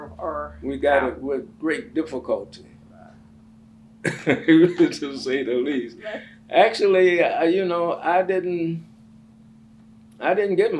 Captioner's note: laughs